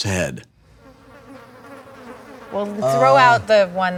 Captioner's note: flies buzzing